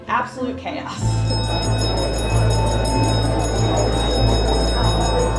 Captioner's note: bell chiming